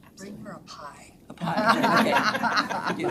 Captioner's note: members laughs